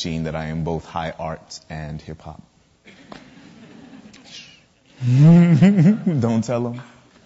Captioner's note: laughs